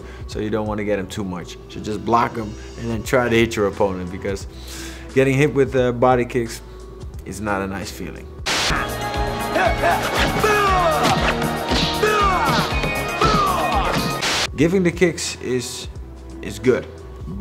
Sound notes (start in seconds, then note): 8.4 upbeat music; 10.4 man exclaims